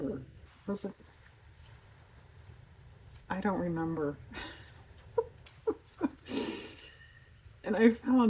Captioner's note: laughs